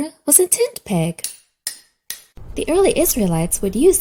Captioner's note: hammer taps